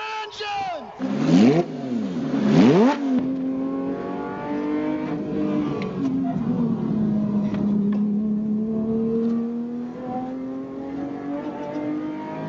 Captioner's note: engines revving